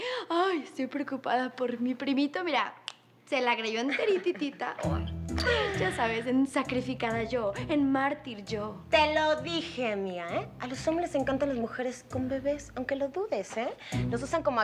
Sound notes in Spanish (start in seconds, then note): 3.8 Risas